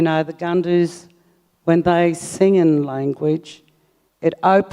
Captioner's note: speaks native language